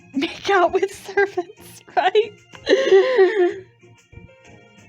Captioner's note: bursts out laughing